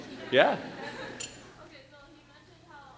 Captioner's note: laughing